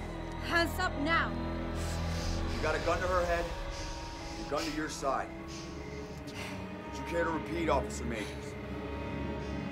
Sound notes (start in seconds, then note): 1.2 static buzzing